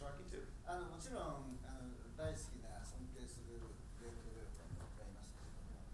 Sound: speaking in foreign language

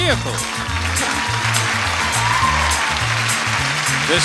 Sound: upbeat music; audience cheering

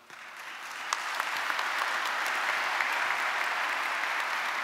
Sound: audience applauding

